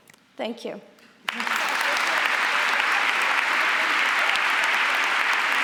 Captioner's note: audience applauds